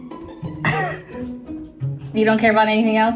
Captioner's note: laughing